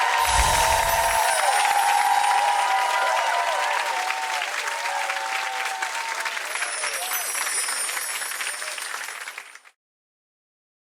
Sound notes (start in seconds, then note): 0.0 audience cheering; 0.1 chiming; 6.6 chiming